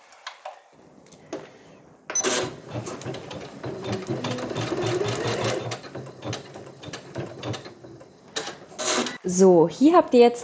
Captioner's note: machine noises